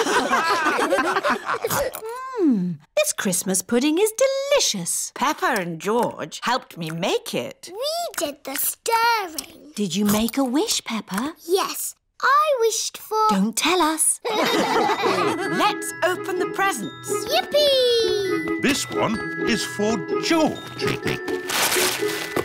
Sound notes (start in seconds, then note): 0.0 all laugh; 14.2 all laugh; 21.1 snorts